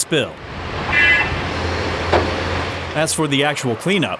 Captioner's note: construction equipment rumbling